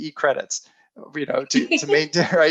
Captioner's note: laughing